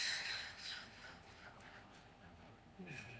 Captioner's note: breathing deeply